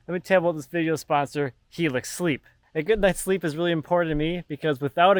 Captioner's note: none